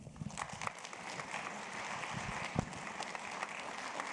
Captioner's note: audience applauds